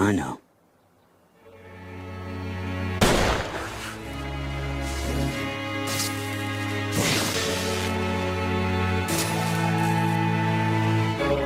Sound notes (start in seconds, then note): 1.5 impactful music; 3.0 gunshot booms; 6.7 electricity crackles